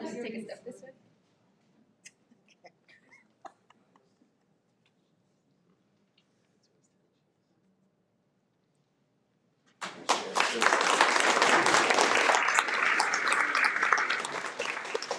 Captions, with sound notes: - Do you wanna us to take a step this way? (board member laughs) (audience applauds)